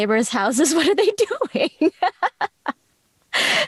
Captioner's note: laughs